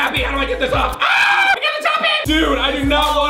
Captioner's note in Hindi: चिल्लाना